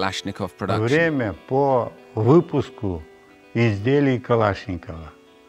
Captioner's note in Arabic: الصوت المنطوق بالروسية